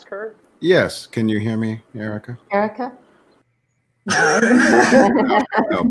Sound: members laugh

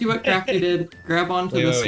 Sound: laughs

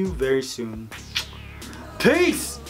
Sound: smooch

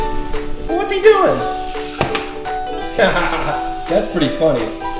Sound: laughs

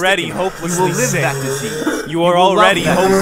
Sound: slowed coughing

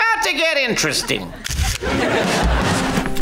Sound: camera flashing

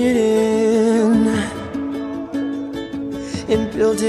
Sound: echoes

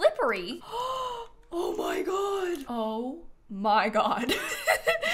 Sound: gasps

